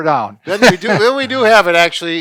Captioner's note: laughs